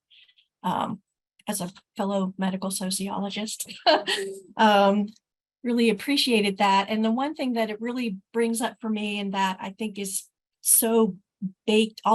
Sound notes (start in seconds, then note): 3.7 laughs